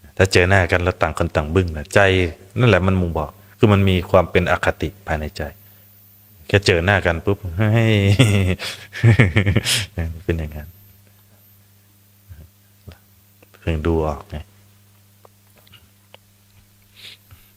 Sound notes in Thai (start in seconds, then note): 8.0 เสียงหัวเราะ